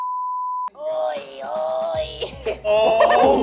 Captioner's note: groaning